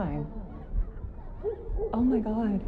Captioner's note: heart beating